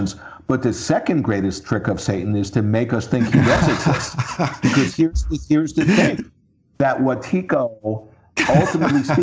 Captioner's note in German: lacht